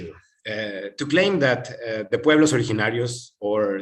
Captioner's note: non-english speech